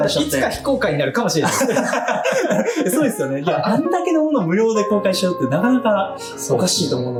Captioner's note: laughs; laughs